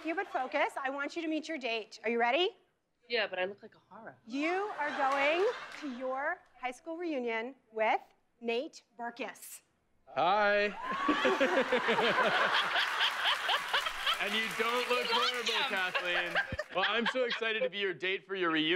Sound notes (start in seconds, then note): 10.8 laughter; 10.9 applause